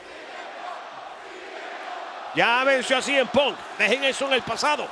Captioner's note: applause